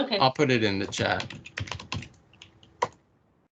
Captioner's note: typing sound